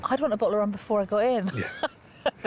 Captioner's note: laughs